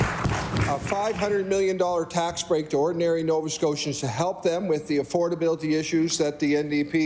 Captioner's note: applause